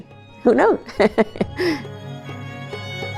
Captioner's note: laughs; soft music